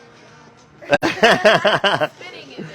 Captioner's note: group laughing